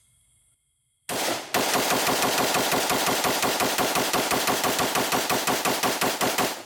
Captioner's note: steady firing